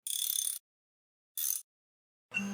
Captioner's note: wrench ratchet sounds